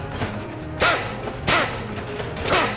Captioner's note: shovel clangs